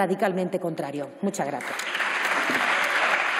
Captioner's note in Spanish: Aplausos